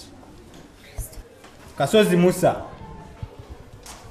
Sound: Precious whispers

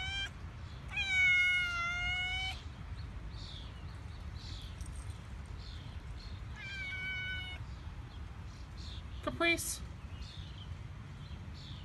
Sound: Caprice continues meowing

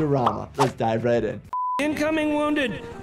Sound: broadcast signal beeps

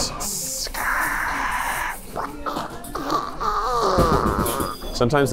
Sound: making grinding sounds

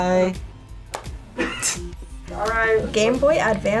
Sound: laughs

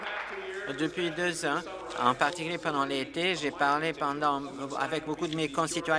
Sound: applause

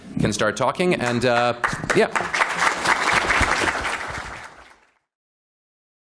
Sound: applause

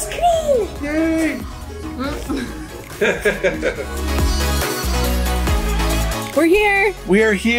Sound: laughing

